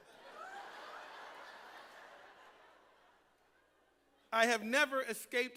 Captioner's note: laughter